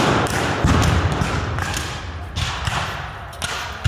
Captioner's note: guns fire